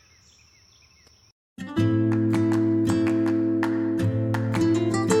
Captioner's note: birds chirping